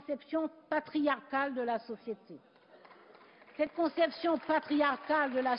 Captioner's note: Applause from several benches of the SRC Group